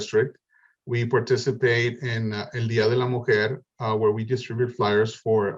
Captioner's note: spanish